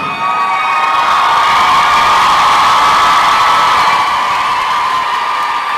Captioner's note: crowd applause and cheering